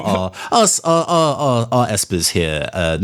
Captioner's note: stammers